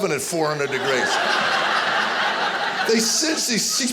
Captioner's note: audience laughing